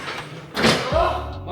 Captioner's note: clattering